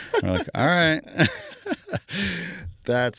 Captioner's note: laughing